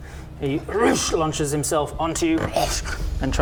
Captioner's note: roosh!